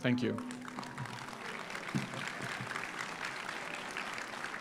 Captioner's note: audience applauds